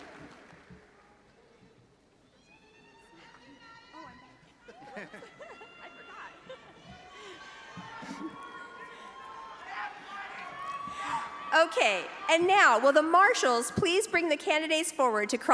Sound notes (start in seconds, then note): 0.2 audience chattering; 5.9 panel chuckling; 7.9 audience chattering